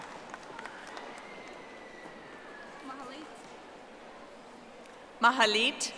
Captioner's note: audience applauding